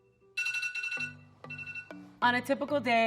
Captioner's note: alarm ringing